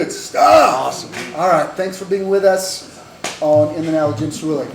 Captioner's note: claps hands; slaps leg with hand